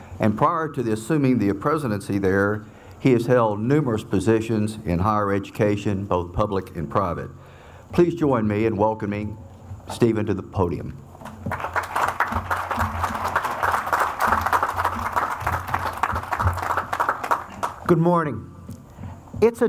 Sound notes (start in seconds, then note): 11.2 audience applauds